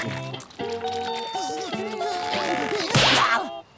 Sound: groaning; snapping

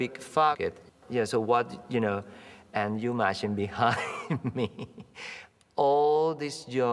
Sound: laughing

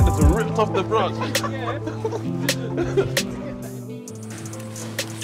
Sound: laughing

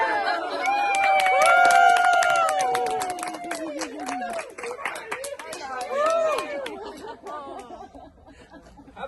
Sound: applause

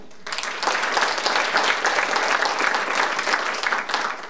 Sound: audience applauding

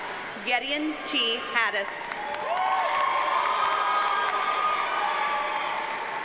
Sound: audience cheers and applauds

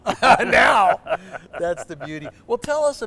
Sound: laughter

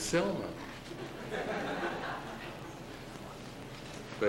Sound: laughter

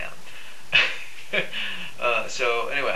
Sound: laughs

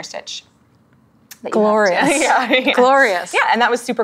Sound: laughs

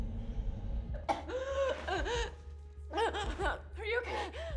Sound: Zara gasping

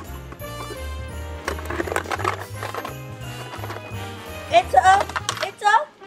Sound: toy rattling

